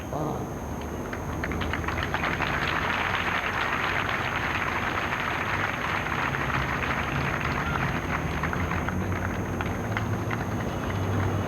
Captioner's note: applause